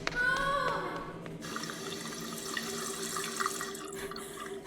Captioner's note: water flowing; breathes heavily